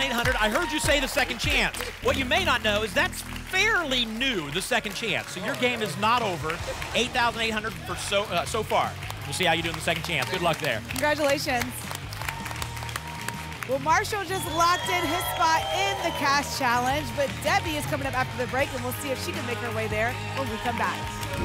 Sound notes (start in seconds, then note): 12.7 applause and cheering